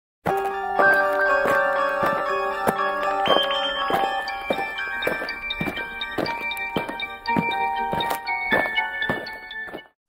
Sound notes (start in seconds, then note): 0.3 eerie music; 0.3 alien footsteps